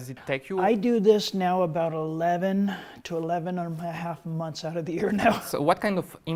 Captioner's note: laughs